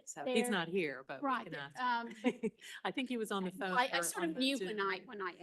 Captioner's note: laughing